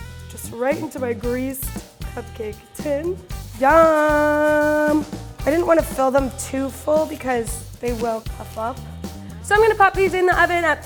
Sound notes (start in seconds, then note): none